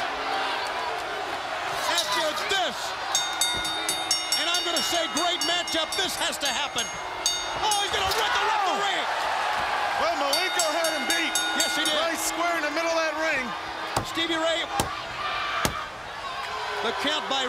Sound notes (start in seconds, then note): 1.5 crowd chatter; 3.0 bell ringing